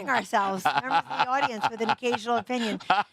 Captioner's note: laughter